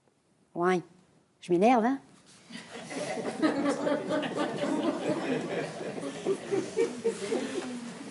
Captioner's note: laughs